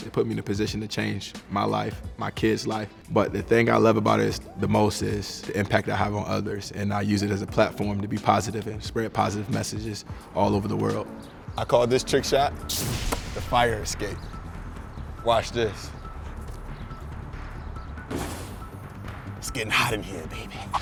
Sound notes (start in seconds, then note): 18.0 basketball falling through rim and net; 20.6 blowing kisses, laughing